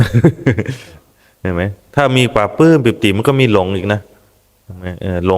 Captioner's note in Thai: เสียงหัวเราะ